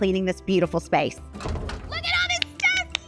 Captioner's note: hinge clickling